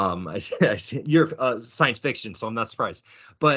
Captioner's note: chuckling